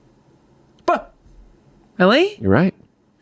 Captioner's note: yells